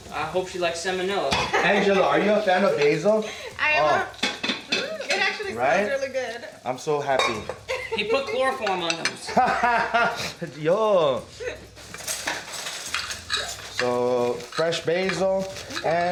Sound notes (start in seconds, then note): 9.3 laughs